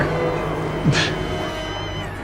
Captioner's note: mocking scoff